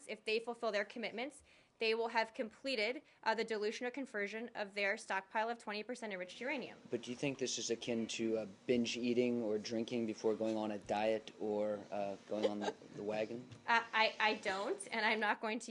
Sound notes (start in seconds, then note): 12.3 laughter